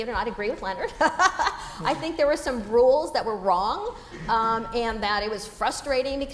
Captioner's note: laugh